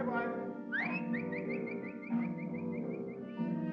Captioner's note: whistling